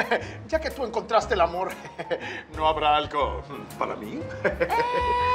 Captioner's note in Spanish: Ríe